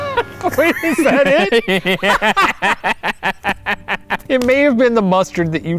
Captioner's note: laughing